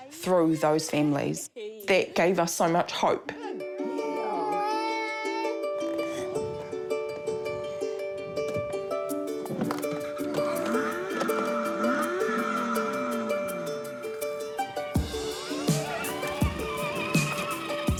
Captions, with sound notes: 'through those families. That gave us so much hope.' Good girl. - (WHINES) (GENTLE GUITAR MUSIC) (CAR ENGINE REVS) (ENGINE WHIRRS)